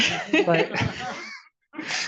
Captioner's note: audience laughing